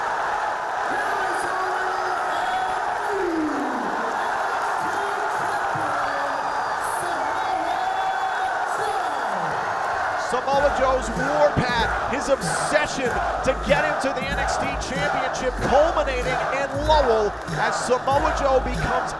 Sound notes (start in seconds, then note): 0.0 cheers and applause; 8.4 cheers and applause